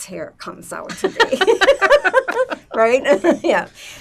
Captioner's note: laughing